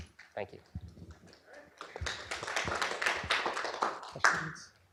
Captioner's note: applause